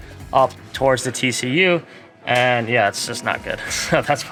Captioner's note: laughs